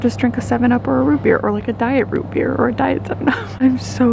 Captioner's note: chuckles